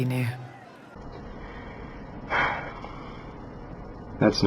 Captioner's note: deep, envious sigh